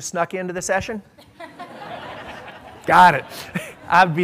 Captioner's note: laughter